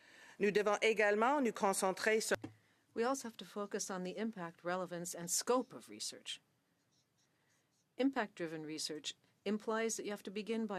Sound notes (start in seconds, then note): 5.4 speaking French